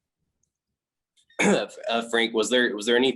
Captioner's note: clears throat